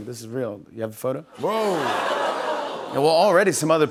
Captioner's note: laughter